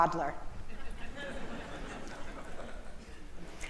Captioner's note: audience laughing in acknowledgement